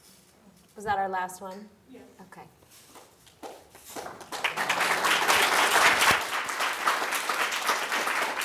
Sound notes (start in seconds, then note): 3.3 people clapping